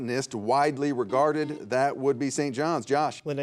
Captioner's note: buzzer buzzing